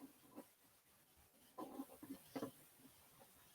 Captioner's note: none